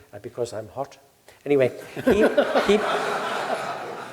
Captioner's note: laugh